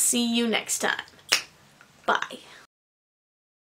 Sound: finger snaps

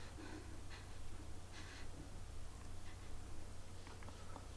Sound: sobbing and breathing heavily

